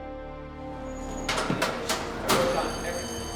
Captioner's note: lockers closing